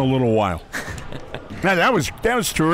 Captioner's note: laughs